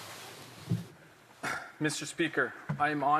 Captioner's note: speaking French